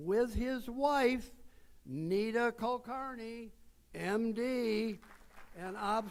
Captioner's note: audience applauds